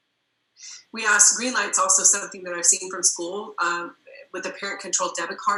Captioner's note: murmur